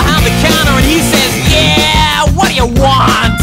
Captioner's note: snarkily; guitar fill